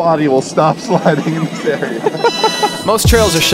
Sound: laughter

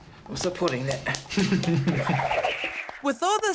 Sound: fingers snap; laughs

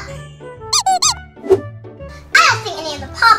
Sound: squeaking sounds

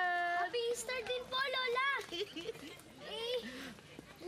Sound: giggles

